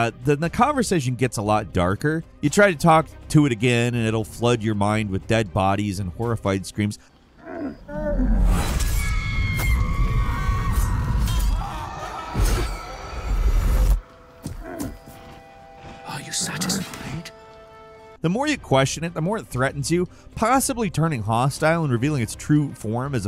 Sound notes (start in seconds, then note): 9.0 woman screaming; 9.1 knife slicing